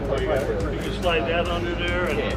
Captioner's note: mechanics chattering